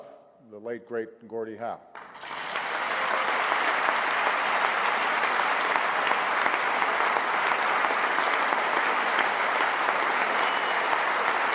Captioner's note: applause